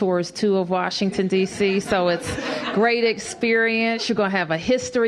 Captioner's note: laughter